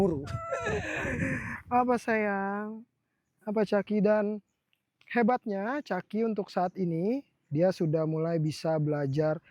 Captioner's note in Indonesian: terkesiap